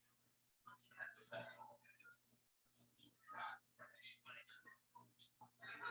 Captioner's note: people chattering indistinctly